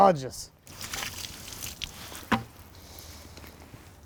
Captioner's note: splashing